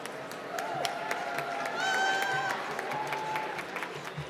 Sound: applause

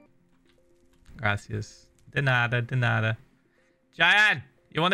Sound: in Spanish; in English

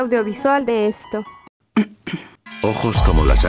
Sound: coughs

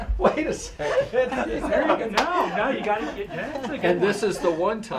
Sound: laughing; more laughing

